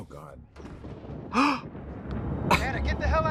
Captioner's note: thunder rumbles; Trixie gasps; Douglas on Phone